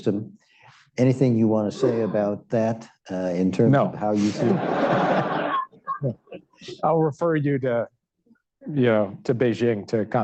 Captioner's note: laughter